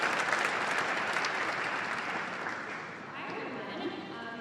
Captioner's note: applause